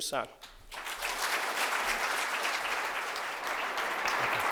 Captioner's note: applause